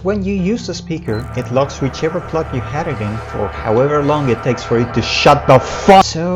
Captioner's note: increasingly louder blaring; really loud blaring